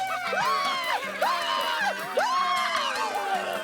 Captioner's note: cheering